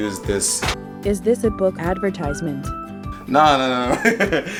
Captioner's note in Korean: 웃음